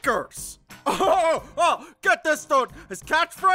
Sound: laughs

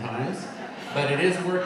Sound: audience laughing

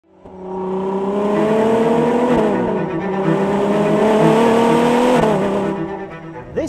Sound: engine revving; dramatic classical music

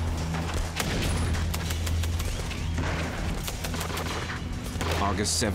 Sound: gunshots

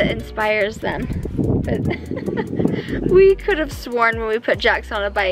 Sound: chuckling

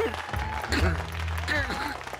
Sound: sobbing

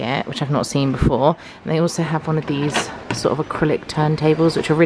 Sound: none

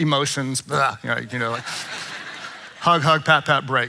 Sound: congregation laughing

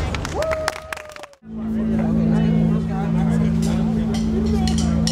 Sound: audience applauds

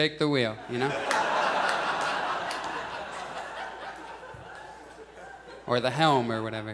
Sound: audience laughs

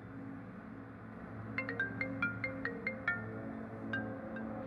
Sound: phone ringing

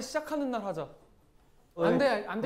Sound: silent

